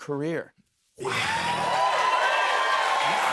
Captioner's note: cheers and applause